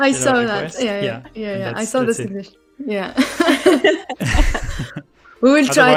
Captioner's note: laughter